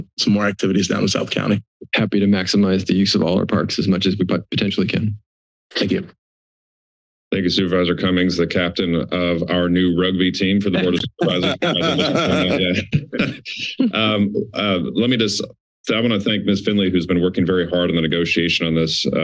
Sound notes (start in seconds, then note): 10.7 laughter